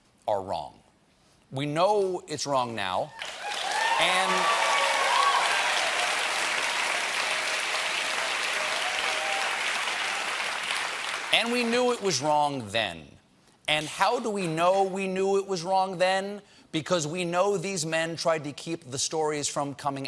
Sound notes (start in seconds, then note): 10.1 cheers and applause